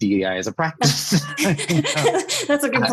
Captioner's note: laughs